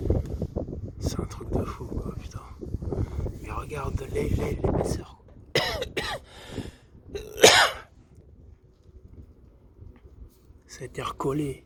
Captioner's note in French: toux